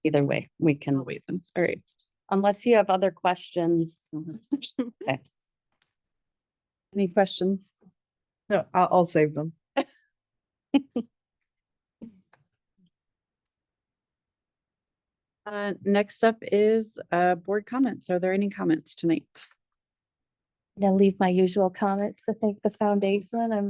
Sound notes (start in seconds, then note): 10.8 board members laugh